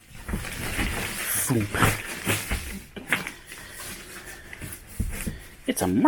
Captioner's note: plastic noises